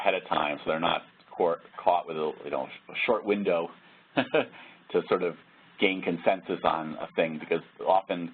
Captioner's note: laugh